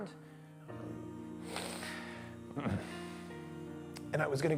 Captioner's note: crying